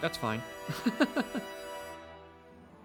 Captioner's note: laughs